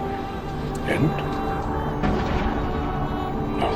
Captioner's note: Gandalf's voice